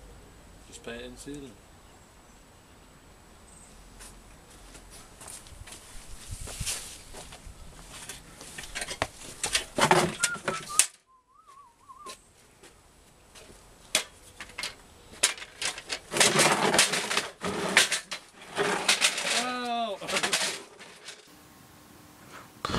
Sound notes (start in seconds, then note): 10.1 whistles; 15.2 clattering